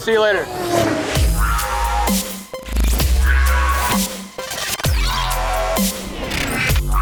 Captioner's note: car revs; upbeat electronic music